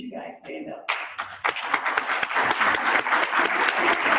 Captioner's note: applause